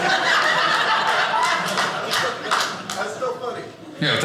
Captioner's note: audience laughing